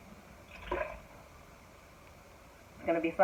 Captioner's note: water sloshing; water splashing